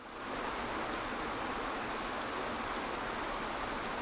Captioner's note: waterfall rushing